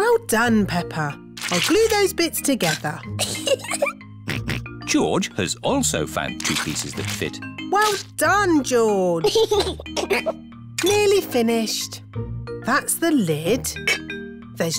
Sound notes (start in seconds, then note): 3.2 giggles; 3.4 snorts; 9.2 giggles